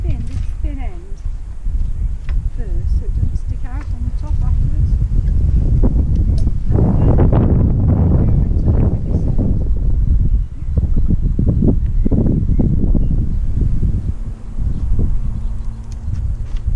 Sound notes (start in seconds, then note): 5.1 wind blowing